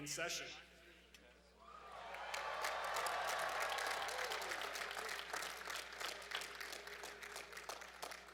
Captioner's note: applause